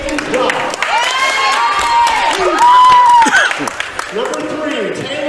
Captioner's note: cheering